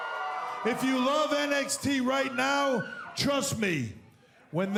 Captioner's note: cheers & applause